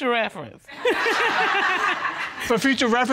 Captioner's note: laughs